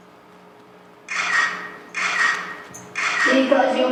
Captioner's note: camera shutter sounds